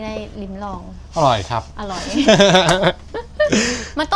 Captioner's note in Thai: เสียงหัวเราะ